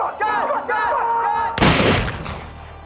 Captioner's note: gunshot